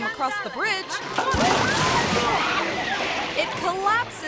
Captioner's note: guests yell; bridge crashes